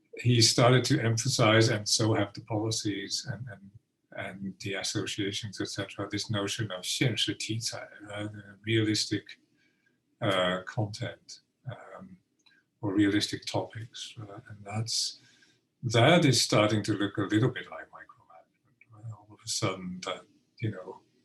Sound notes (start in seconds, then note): 7.2 speaking Mandarin